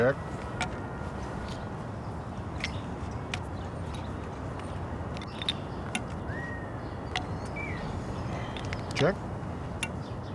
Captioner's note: tinkering of chess pieces